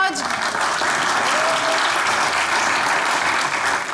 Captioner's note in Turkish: Alkış sesleri